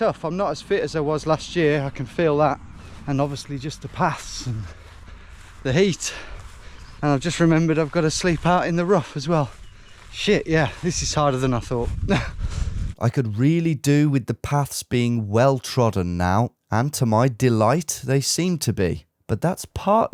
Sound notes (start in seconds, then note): 12.1 chuckles